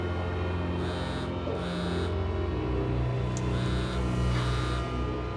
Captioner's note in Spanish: zumbidos de un celular